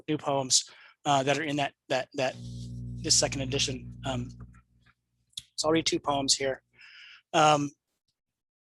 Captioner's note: none